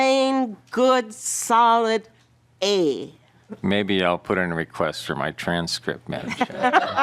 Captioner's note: laughing